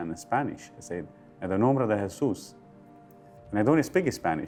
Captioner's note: man speaking Spanish